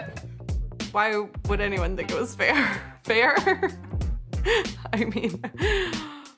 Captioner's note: laughs